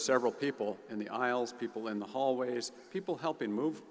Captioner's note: none